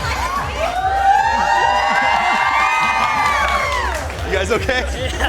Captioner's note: cheering